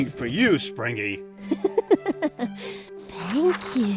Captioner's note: chuckles